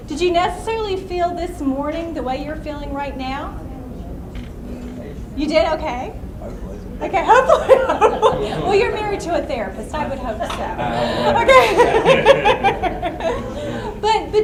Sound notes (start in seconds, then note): 4.3 voiceover; 7.0 voiceover; 7.9 laughs; 11.4 voiceover